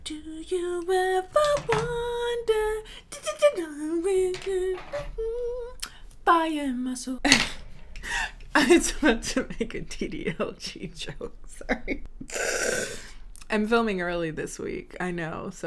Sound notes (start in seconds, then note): 3.0 hums; 7.3 laughs